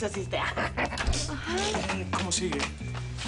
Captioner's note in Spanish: Risas